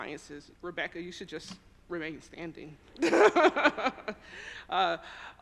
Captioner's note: laughs